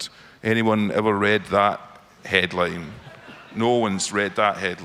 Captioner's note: crowd laughs